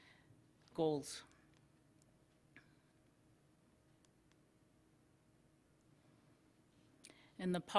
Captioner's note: silcence